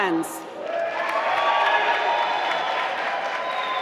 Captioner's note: applause